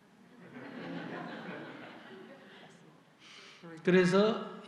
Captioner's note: audience Laughter